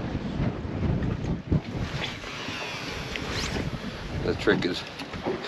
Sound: reel spinning

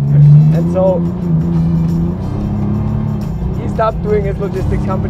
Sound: engine rumbling

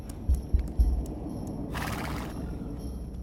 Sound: neighing

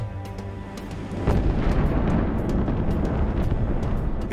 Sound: explosion

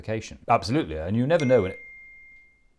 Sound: ping

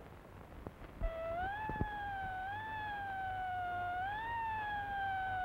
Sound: airplane screeching

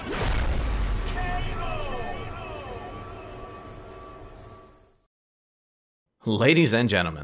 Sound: echoing

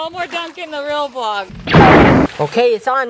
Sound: blaster

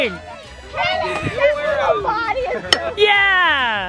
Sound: excited chatter

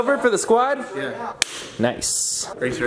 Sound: solid high five

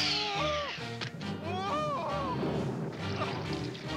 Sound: whooping

